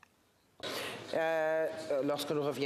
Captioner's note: speaking French